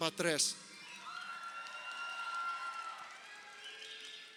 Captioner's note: crowd cheering